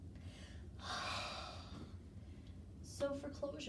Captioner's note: breathing deeply